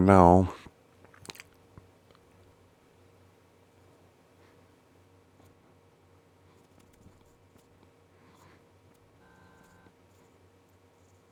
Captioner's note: silence